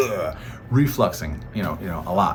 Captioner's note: mimicking throwing up